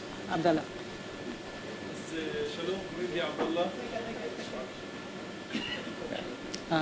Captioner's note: speaking arabic